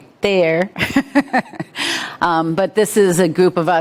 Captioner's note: chuckling